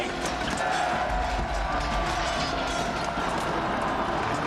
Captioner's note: crowd roaring